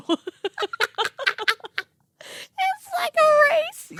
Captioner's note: girls laughing hysterically